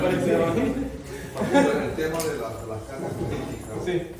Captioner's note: laughter